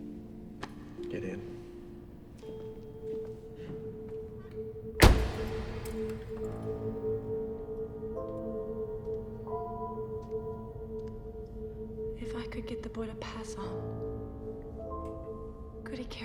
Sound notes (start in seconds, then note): 5.0 car door thuds; 7.9 suspenseful music